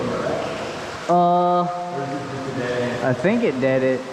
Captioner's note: confused